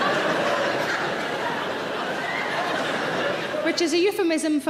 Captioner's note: audience laughing